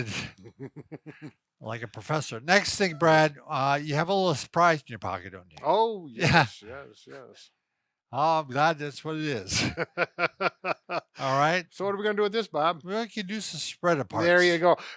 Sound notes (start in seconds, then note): 0.0 both laughing; 9.4 laughing